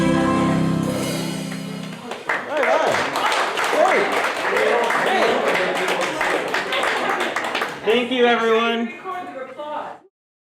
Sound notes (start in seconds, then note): 1.8 applause